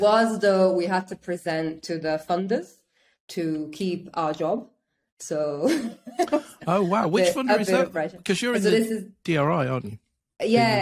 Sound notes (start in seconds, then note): 5.7 laughs